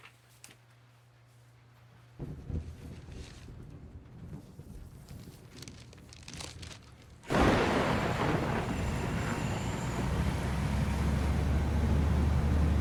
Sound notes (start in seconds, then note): 2.2 thunder rumbling; 7.3 heavy thunder striking